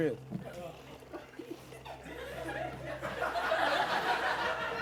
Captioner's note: laughter